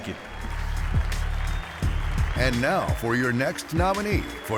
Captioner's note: applause